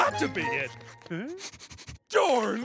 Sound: sniffing

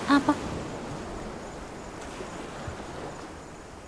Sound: sound of the waves

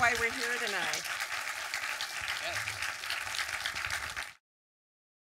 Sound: audience applause

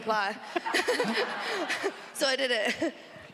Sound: audience laughs

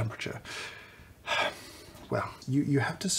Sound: sigh

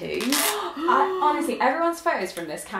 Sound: gasps

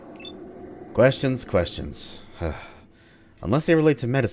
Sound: sigh

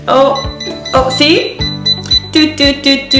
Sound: machine beeps

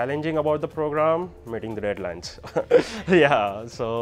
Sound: laughs

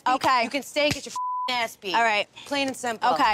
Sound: beep

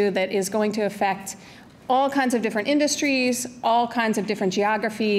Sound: none

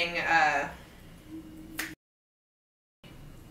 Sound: snapping fingers

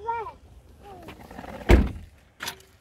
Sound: trunk closes

